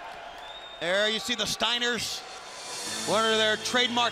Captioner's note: crowd cheering